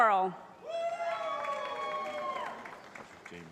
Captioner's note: cheering